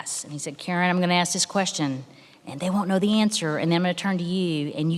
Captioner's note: none